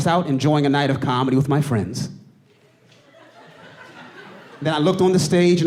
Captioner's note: audience laughing